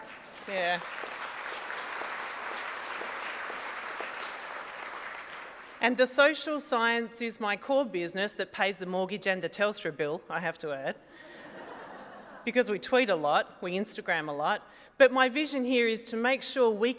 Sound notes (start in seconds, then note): 0.0 applause; 11.2 laughter